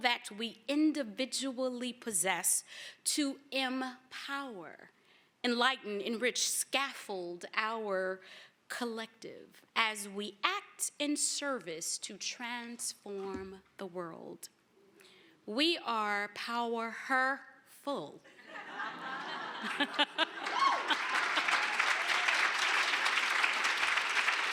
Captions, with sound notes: that we individually possess to empower, enlighten, enrich, scaffold our collective as we act in service to transform the world. We are "pow-her-ful." [LAUGHTER] [APPLAUSE]